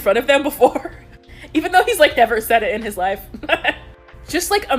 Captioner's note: laughs